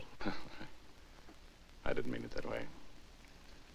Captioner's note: chuckling